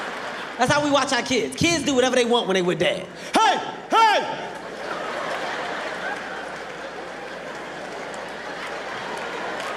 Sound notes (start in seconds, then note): 4.3 audience laughing